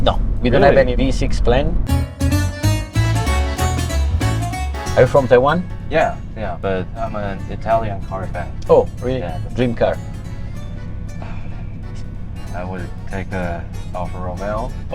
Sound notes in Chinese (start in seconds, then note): 11.2 深呼吸